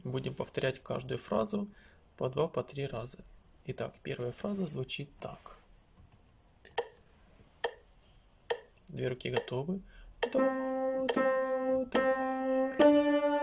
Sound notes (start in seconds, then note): 6.3 metronome tick; 10.3 singing notes